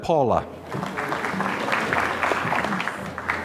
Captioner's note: applause